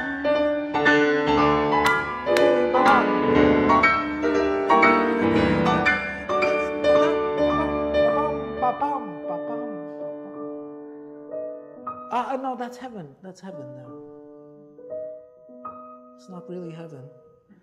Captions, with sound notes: (makes interpretive musical sounds) (claps) (makes interpretive musical sounds) Ah, no, that's heaven, that's heaven. It's not really heaven.